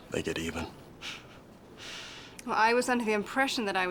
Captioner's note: chuckles